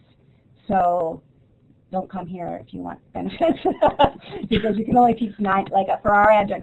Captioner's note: laughing